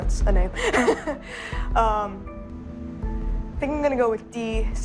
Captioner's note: chuckles